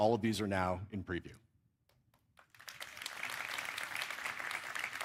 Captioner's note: applause